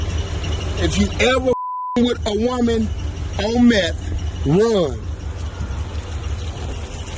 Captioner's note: beep